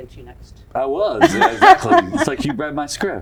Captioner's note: laughs